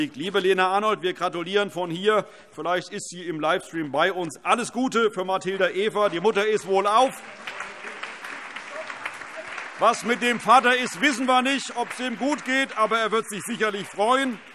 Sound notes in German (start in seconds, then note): 7.3 Allgemeiner Beifall